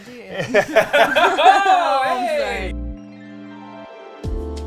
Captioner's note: all laugh; upbeat music playing